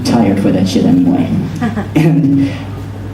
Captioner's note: laughter